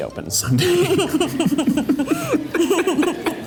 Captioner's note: both laugh